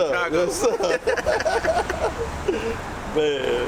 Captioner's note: laughs